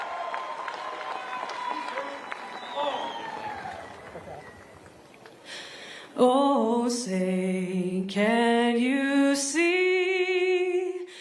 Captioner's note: cheers and applause